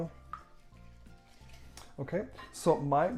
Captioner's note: whisking mixture